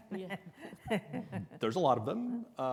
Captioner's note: laughs softly